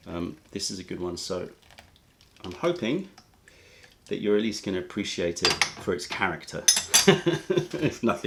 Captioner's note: laughter